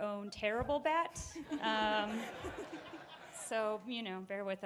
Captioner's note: audience laughing